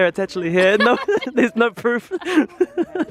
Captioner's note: laughs